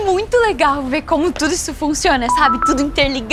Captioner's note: notification